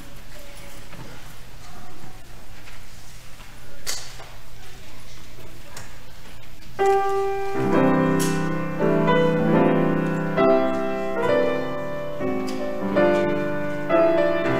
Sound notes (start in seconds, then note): 0.7 audience chattering; 4.1 piano music